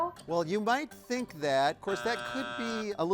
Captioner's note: buzzer sounds